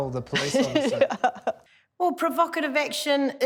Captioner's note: laughs